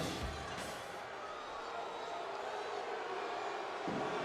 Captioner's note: audience booing